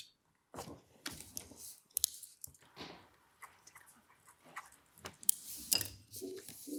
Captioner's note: pen clicks; pen scribbling